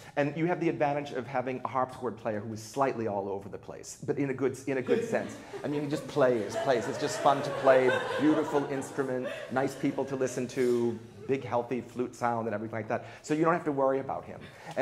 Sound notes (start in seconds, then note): 6.6 laughter